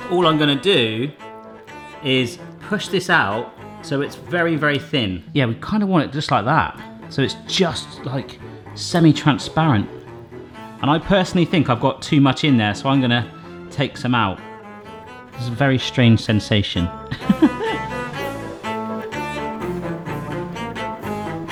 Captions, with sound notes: So all I'm gonna do is push this out so it's very, very thin. Yeah, we kind of want it just like that. So it's just semi-transparent. And I personally think I've got too much in there, so I'm gonna take some out. This is a very strange sensation. (laughs) (upbeat quirky music)